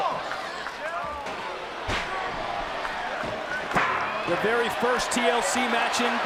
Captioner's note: applause